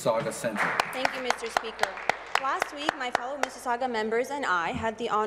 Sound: applause

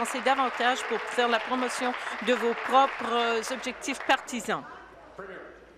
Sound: applause

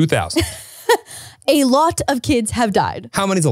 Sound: chuckles

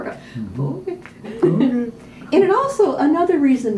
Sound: chuckles

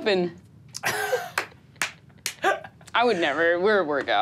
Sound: laughs

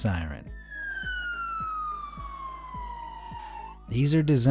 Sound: siren blaring

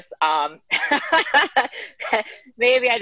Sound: laughing

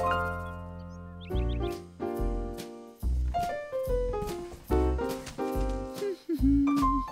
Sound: humming

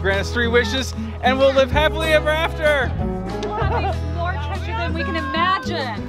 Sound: laughs

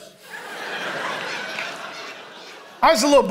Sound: congregation laughing

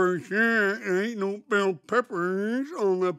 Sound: none

